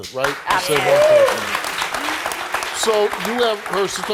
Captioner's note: crowd applauding